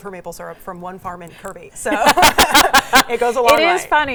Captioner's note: both laugh